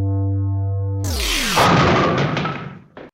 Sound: crash

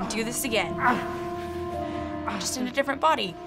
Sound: in game: groaning in pain

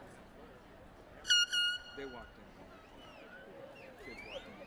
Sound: airhorn sounds

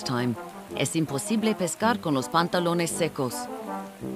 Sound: speaking in a foreign language

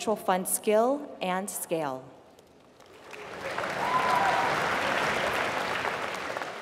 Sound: applause

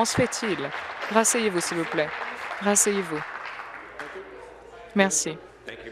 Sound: applause

